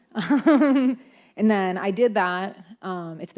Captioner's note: laughs